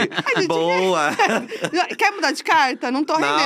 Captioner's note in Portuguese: risos